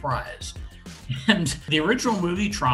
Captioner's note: chuckles